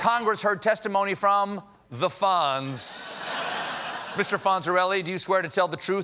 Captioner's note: laughter